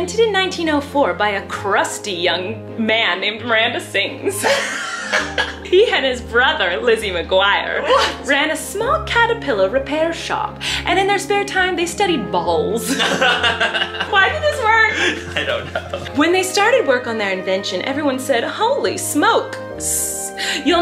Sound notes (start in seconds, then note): 12.8 both laugh